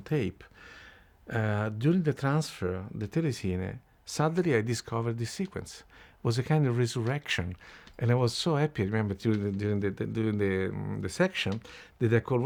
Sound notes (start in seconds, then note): 8.1 stuttering